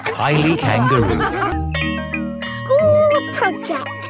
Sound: school bell rings

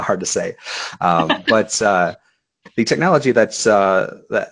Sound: laughing

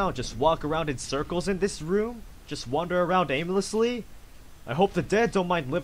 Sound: none

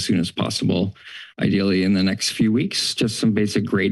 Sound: exhales

